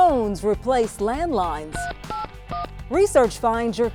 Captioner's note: phone beeping